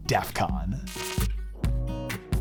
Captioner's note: electric buzzing; upbeat music